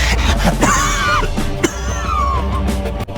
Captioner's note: vizier coughs